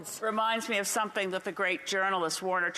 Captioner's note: speaking Indigenous Language